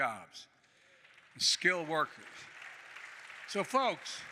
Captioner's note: applause